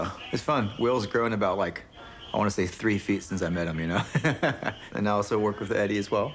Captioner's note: laughs